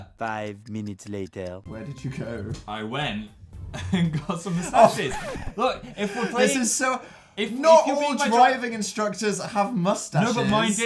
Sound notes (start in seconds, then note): 3.7 laughing; 3.7 laughs; 5.4 inhale